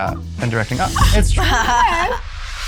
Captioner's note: gasps